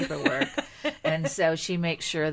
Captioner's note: laughing